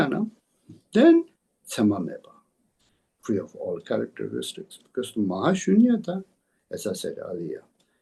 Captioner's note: tibetan